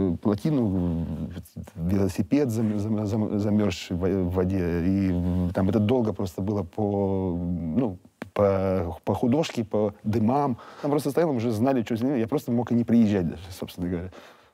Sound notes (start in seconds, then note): none